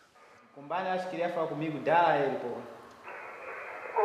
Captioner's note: speaking Portuguese; man responds on radio